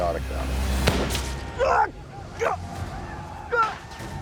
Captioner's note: gunshot